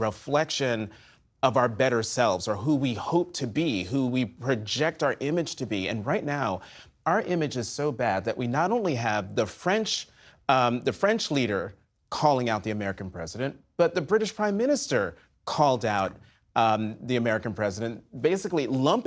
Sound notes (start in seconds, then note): none